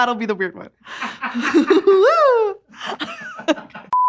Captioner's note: laughing